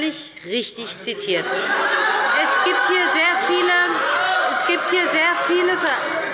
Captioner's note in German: Lebhaftes Lachen bei der SPD und der LINKEN